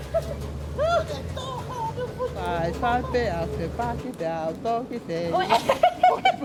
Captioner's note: speaking in Tongan; women laughing